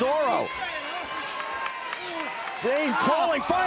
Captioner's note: crowd shouting